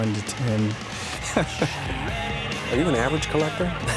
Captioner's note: laughing